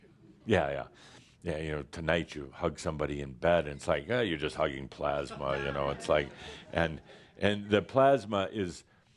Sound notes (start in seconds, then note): 6.0 some chuckles